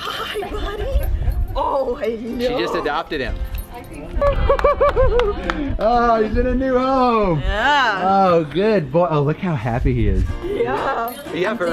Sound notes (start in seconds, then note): 4.2 cheering